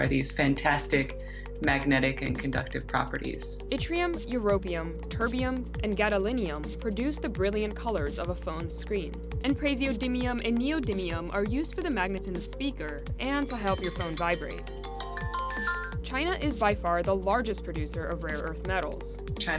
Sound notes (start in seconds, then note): 13.7 iPhone chimes